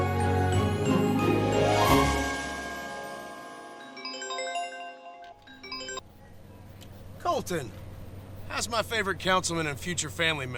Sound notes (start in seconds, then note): 3.8 phone ringing